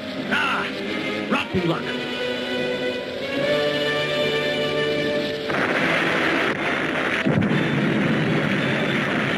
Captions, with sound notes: - Ah, rotten luck. (dramatic music) (explosion booms)